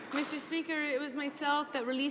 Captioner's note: some Applause